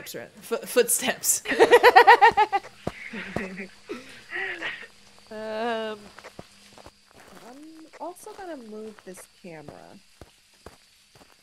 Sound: laugh

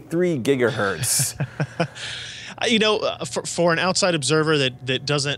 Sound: laugh

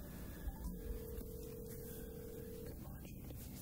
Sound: phone ringing

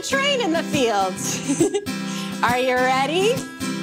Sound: chuckles

